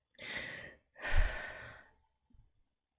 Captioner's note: exhales